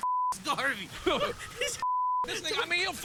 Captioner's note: laughing